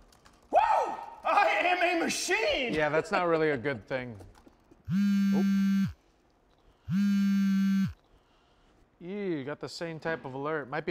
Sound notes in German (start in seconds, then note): 4.8 Telefon vibriert